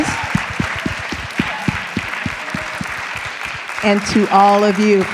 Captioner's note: applause